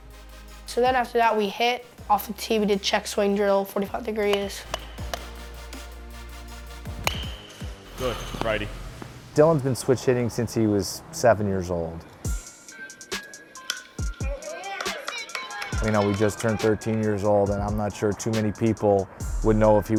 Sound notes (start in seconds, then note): 12.2 hip hop music plays; 15.8 crowd cheering